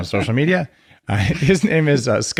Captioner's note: laughing